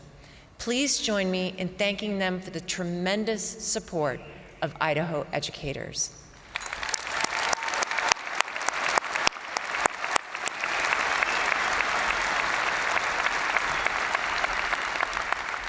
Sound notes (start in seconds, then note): 6.4 crowd applauding; 6.5 crowd cheering